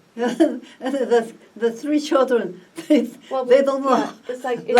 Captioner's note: laughs